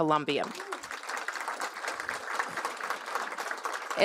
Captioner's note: applause